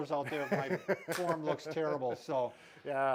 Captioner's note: chuckling